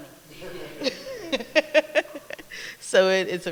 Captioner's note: laughter